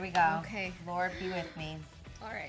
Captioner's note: groans